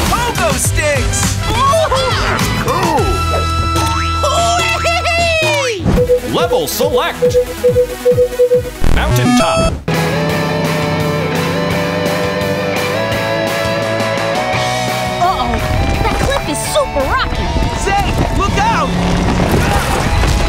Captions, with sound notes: Pogo sticks! [cheering] Levels select, Mountain Top. Uh oh, that cliff is super rocky. Zane, look out!